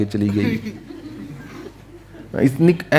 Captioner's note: laughs